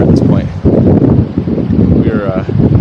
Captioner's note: wind blowing